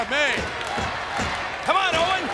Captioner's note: audience chanting